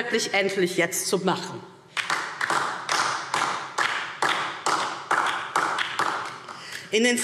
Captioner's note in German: Beifall DIE LINKE